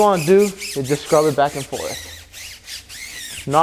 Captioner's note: brush squeaking